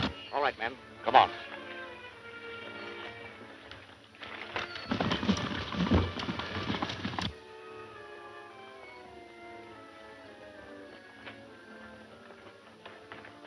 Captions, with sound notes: All right, men, come on. (horses galloping) (dramatic music)